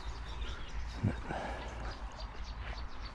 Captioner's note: breathes heavily